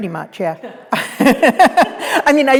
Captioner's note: both laughing